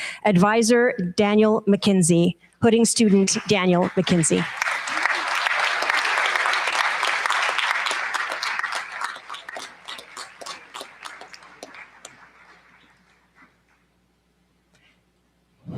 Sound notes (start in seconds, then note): 4.6 applause